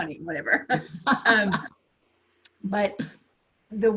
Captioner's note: laughs